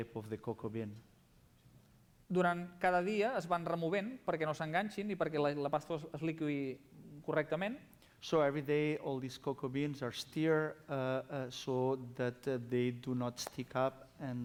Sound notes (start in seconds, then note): 4.4 non-english speech